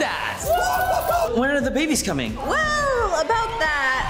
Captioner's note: cheering